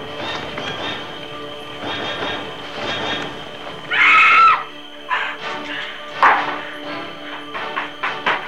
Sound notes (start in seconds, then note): 3.8 scream; 6.2 game piece moving